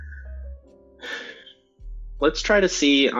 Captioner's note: sighs